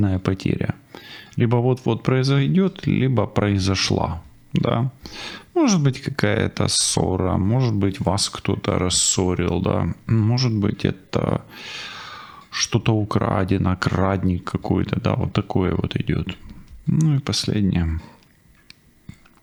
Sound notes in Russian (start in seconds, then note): 11.5 тяжело вздыхает